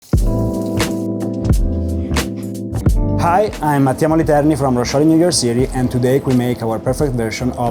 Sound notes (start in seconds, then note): 0.0 lively music; 0.1 food sizzling